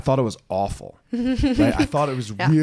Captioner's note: laughs